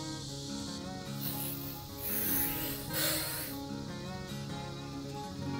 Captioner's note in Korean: 모기약 뿌리는 소리 ㅎㅎ